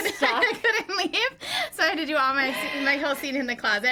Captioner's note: both laugh